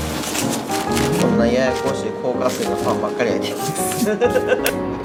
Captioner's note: laugh